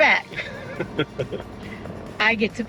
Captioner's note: chuckles